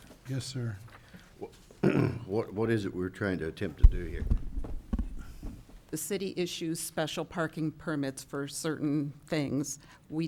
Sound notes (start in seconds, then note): 1.8 clears throat